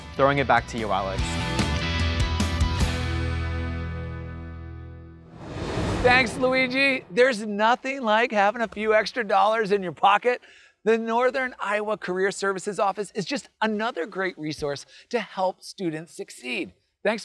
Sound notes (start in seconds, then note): 1.9 bright music; 5.3 graphics whooshing